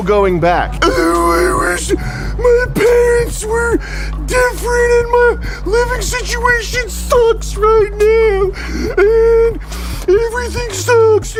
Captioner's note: more pathetic wailing